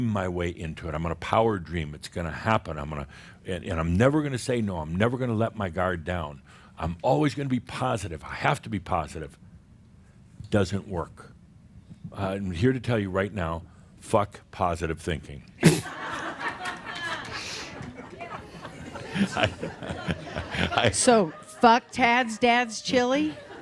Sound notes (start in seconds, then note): 17.7 laughter